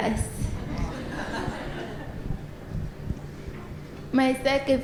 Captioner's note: audience laughter